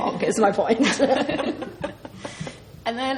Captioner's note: laughs